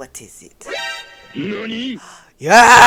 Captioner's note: surprised sound effect